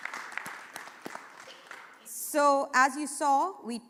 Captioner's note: applause